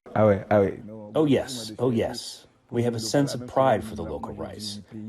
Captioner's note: through translator